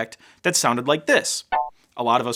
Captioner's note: beep